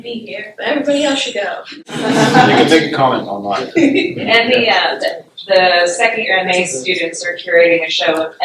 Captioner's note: laughter